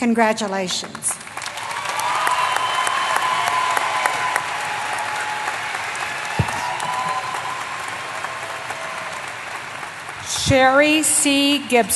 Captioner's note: applause